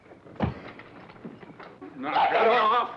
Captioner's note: fist thuds